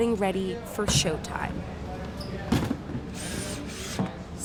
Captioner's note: people chattering